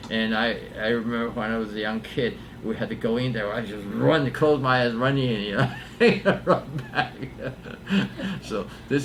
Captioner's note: laughs